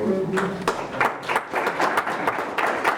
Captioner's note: group Applause